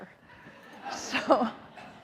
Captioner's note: audience laughing